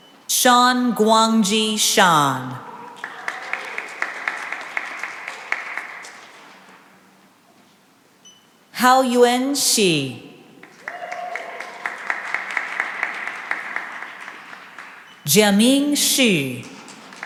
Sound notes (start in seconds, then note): 2.8 cheering and applause; 10.6 cheering and applause